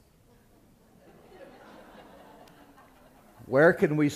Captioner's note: laughter